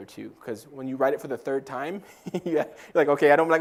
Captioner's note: laugh